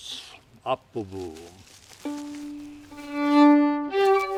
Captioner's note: speaking Swedish; joyful fiddle music